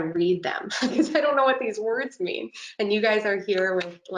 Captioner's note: laughing